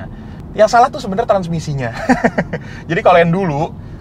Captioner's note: laughing